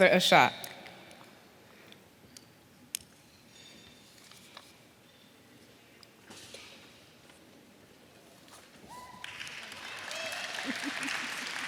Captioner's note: applause